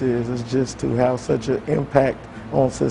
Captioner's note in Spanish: habla en ingés